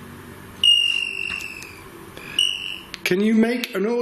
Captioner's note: device ringing